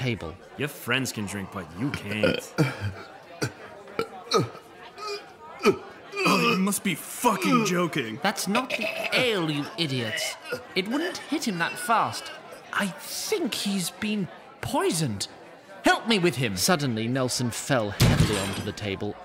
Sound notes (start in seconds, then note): 5.6 dry heaves, painful